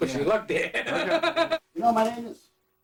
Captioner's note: laughter